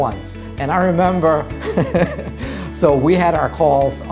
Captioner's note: laughs